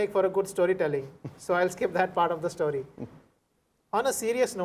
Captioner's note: laughs